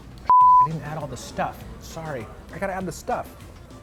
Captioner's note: beep